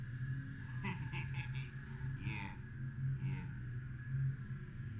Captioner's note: laughing